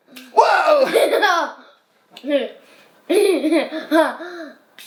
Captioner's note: laughing